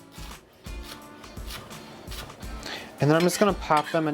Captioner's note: scallions crunching